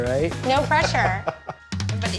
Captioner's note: chuckles